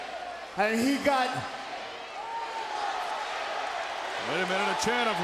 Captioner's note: crowd cheering